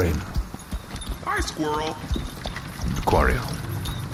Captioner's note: carriage rumbles